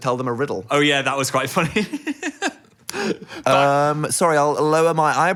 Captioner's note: laughing